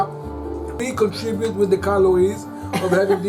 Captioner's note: laughs